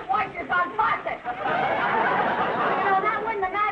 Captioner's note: audience laughing